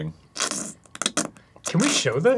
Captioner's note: thick, stuttering slurps